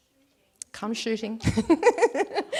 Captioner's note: laughs